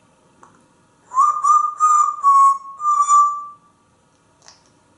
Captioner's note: whistling